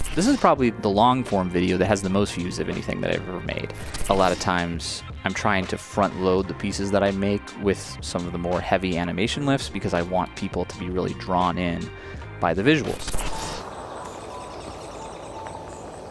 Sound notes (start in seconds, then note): 12.9 static crackles; 13.2 crickets chirping